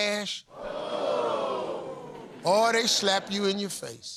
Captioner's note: audience groans